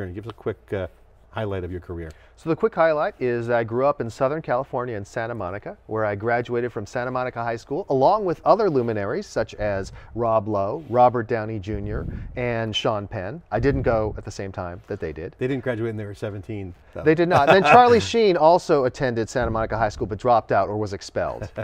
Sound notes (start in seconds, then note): 17.2 laughing